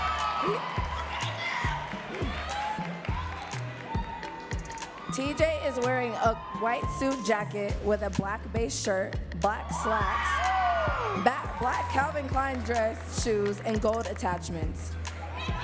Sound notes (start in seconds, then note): 1.9 audience cheering and clapping